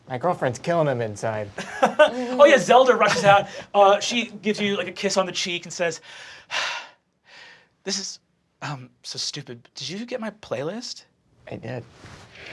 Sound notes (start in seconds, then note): 1.6 laughing; 6.4 sighing